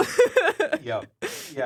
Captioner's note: laughs